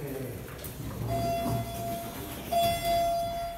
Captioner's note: elevator Chimes